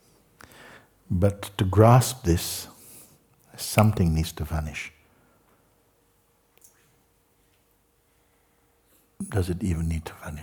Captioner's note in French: claque des doigts